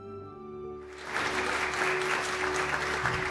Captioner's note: applause